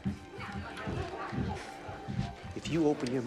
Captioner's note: crowd